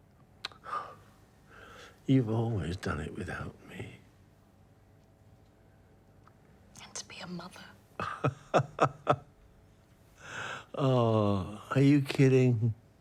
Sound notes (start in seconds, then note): 8.0 Oscar chuckles